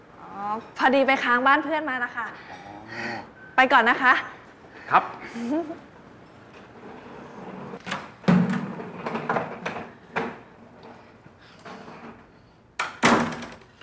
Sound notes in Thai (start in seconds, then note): 7.7 เสียงเปิดประตู; 12.8 เสียงปิดประตู